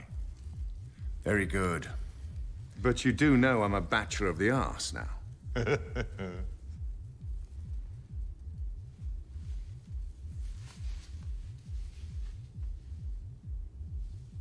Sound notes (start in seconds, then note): 5.4 chuckles